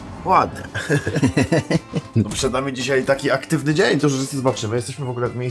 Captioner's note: laughter